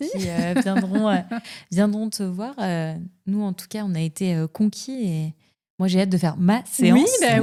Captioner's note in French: rires